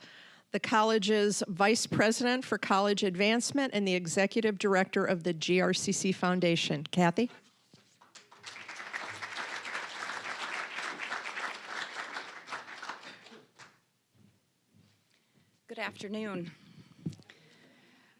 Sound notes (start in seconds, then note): 8.1 applause